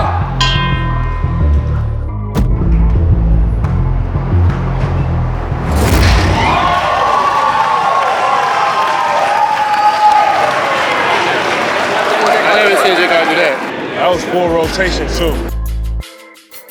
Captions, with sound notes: (subdued music) (spectators applauding) - Obviously, J can do that. - That was full rotation too.